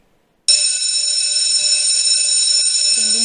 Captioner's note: school bell ringing